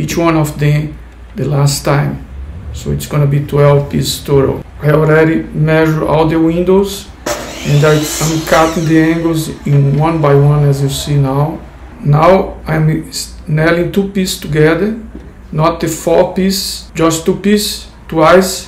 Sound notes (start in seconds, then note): 7.2 miter saw noise